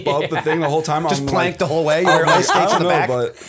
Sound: laughter

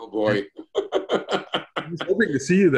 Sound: laughs

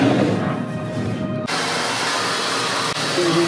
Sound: shower ends

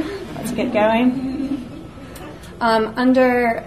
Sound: audience laughs

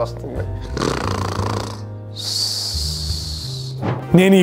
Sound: snores

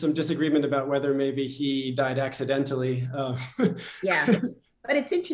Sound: laughter

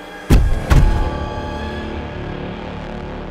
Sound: boots thud

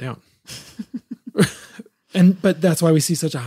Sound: both laughing

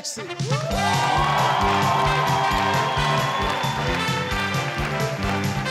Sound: audience clapping to upbeat music

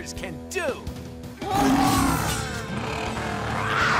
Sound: roaring

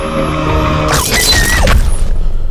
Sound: violent screaming

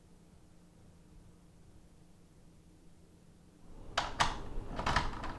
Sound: lock clattering

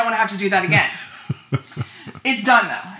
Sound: laughing

